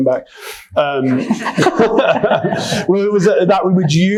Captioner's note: attendees laughing